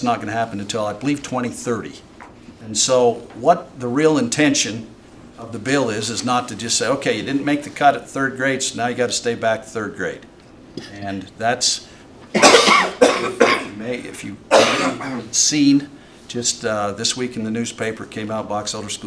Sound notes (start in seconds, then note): 11.8 cough; 14.5 clears throat